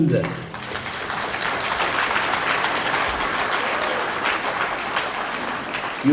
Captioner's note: applause